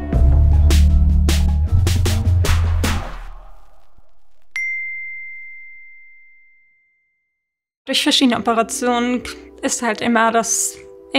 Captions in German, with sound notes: (Treibende Musik) (Klingeln) Durch verschiedene Operationen ist es halt immer, dass ...